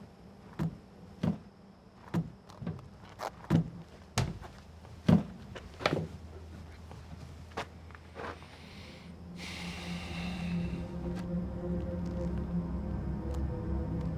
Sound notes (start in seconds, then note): 0.3 footsteps approaching; 8.2 deep breathing; 11.5 slow music